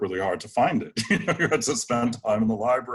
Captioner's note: laughs